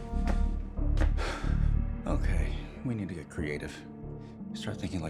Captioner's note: sighs